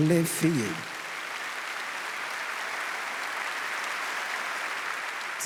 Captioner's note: audience applauds